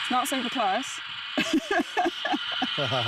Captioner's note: laughing